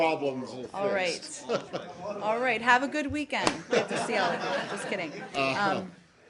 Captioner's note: laughter